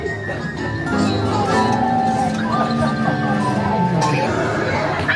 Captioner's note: tourists chattering